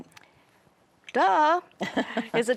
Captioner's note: chuckling